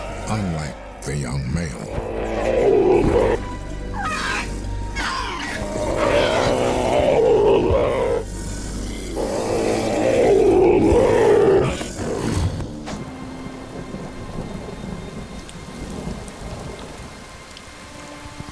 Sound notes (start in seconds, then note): 1.8 roaring; 3.9 squealing; 9.1 roaring; 13.0 tense ambient music playing